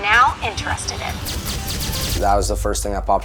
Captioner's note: photo flashing